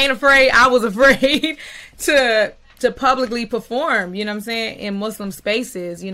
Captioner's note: chuckling